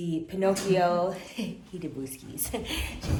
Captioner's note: laughing